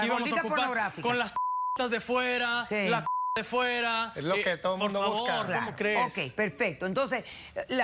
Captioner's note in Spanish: Bip